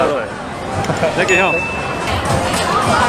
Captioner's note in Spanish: risas